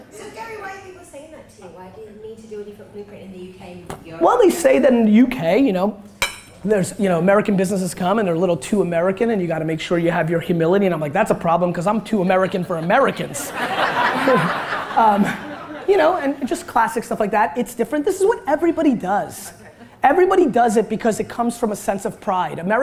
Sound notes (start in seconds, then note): 14.2 audience laughter